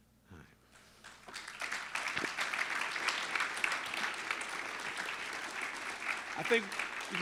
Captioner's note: applause